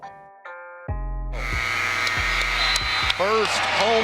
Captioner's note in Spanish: multitud vitoreando; timbre de la arena